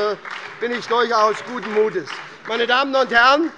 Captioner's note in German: Beifall bei der SPD